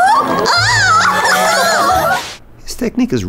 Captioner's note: happily cheers